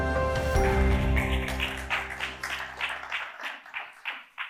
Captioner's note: audience clapping